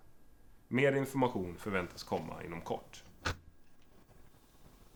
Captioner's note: radio voice